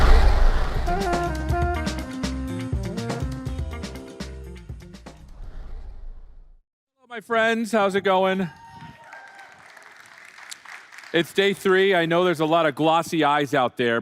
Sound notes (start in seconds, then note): 8.6 applause